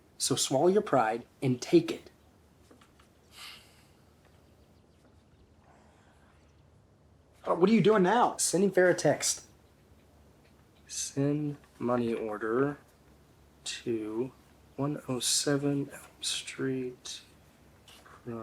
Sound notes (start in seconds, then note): 3.3 Caleb sighs